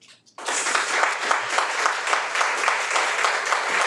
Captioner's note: people applauding